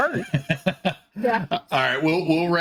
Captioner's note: everyone laughing